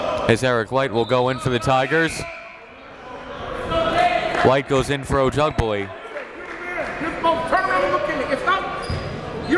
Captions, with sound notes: As Eric Leite will go in for the Tigers. Leite goes in for Ojubele. (coaches yelling)